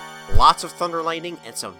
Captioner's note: none